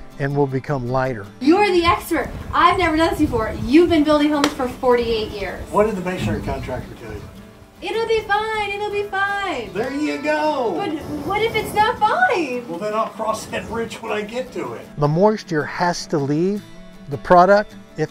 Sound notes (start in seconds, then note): none